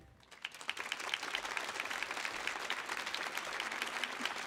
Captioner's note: audience applauds